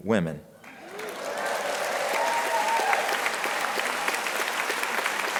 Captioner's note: crowd applauding